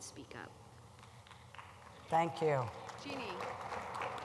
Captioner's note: applause